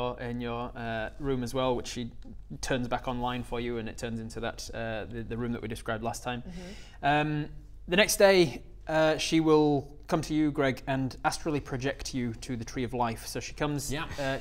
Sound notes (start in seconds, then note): none